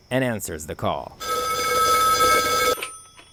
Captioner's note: sound of phone ringing